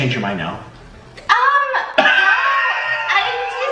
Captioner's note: laughs